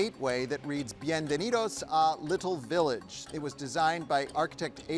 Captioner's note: none